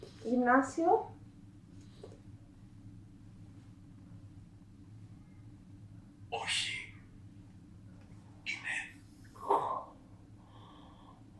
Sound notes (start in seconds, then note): 5.9 achmet – artificial male voice